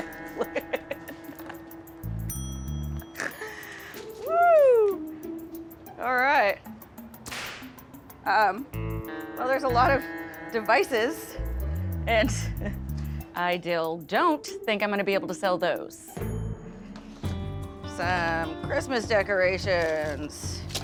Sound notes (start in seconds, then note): 0.0 laughing; 2.2 dinging; 7.2 whip snaps